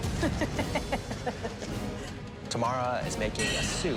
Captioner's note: chuckling